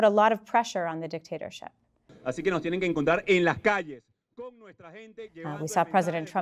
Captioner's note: speaking Spanish